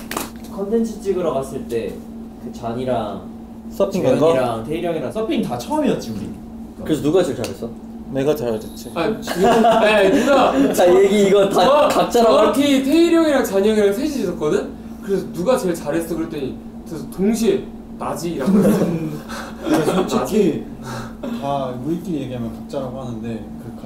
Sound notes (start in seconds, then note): 9.2 confident; 9.2 laughing